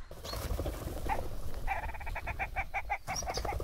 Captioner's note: pheasant sound